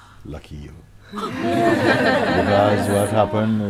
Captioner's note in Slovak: Smiech